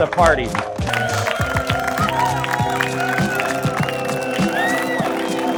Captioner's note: attendees cheering and applauding